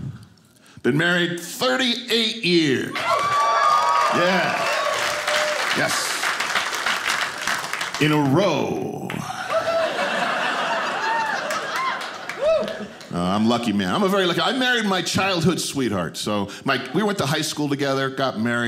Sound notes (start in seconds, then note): 3.0 audience applauding; 9.2 audience laughing